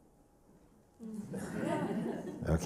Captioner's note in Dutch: gelach